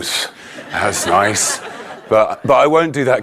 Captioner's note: audience laughing